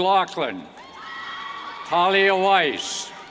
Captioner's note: cheers